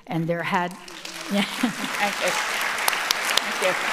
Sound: audience applauding

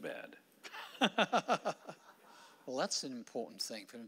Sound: laughing

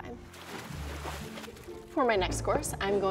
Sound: splashing

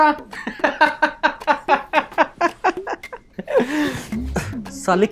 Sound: laughing

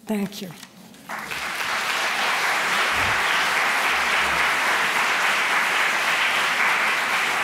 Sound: applause

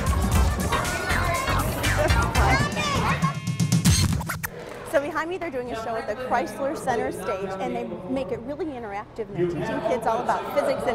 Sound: laughter

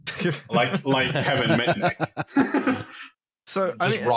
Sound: laughter

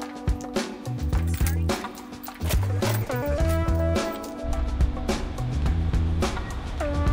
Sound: upbeat music; starting car

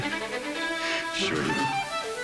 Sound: laughs

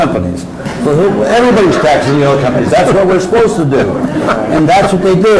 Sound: crowd laughing

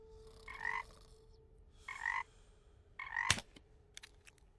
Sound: croaking

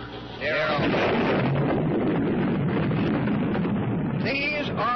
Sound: bomb exploding

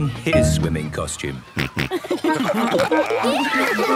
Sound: snorting, giggling

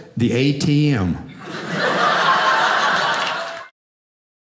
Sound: audience laughing

